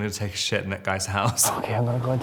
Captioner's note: Robert laughs